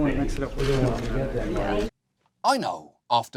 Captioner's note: indistinct crowd chatter